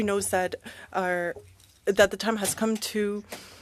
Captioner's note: speaking French